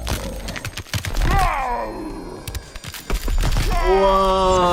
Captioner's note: bones cracking; yells